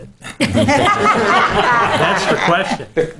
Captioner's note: laughing